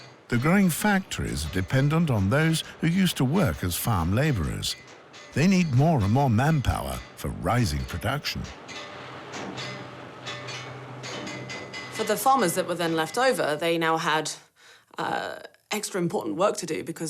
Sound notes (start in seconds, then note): 8.4 banging tools